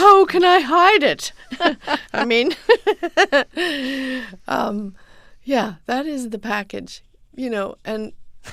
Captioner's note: soundbite of laughter